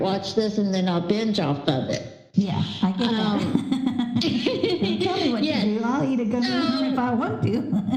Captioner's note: laughter